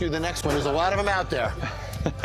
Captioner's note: laughs